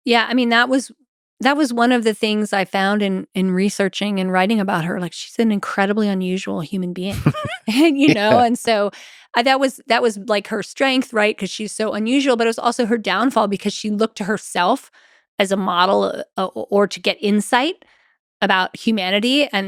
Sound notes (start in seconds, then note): 7.1 Lex chuckles